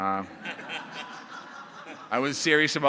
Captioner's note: laughter